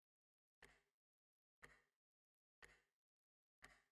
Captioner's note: clock ticking